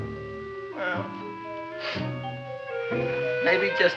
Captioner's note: sniffles